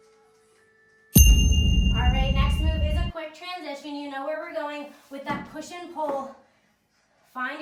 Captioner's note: ding